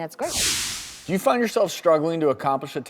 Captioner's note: whooshing